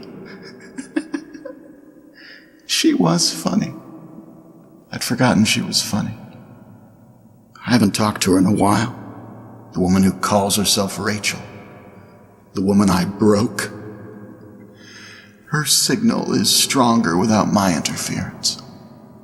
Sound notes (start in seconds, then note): 0.0 laughs